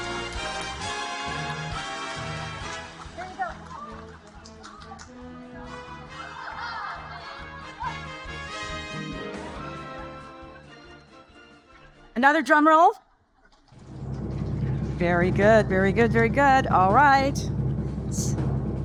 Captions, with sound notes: Here you go. (upbeat music continues) (audience laughing) Another drum roll. (drum roll rumbling) Very good, very good, very good. All right,